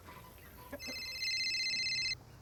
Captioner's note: chickens cluck; cell phone rings